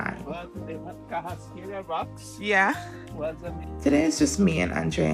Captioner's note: chatter